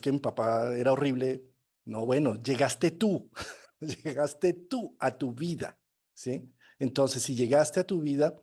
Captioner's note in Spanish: risas